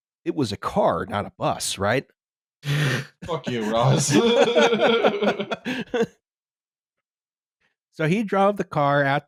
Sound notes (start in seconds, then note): 2.8 laughs; 4.7 laughter